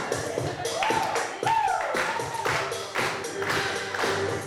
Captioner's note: clapping, cheering